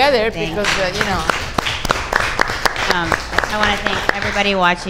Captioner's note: audience applauds